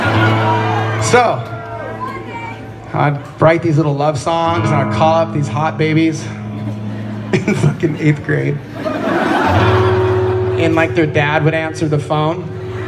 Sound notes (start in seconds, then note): 9.4 laughs